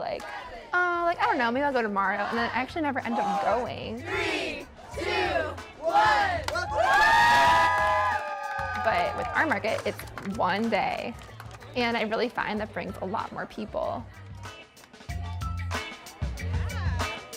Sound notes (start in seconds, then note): 4.7 crowd; 5.8 cheering; 14.7 funky music